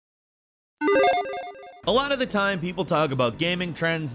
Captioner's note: logo beeping